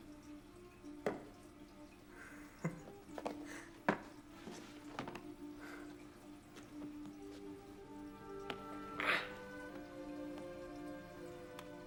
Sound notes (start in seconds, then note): 2.5 Matt chuckles; 6.0 soft music